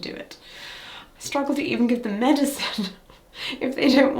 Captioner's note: chuckles